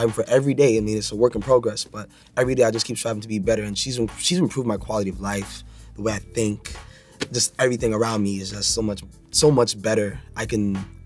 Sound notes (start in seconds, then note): none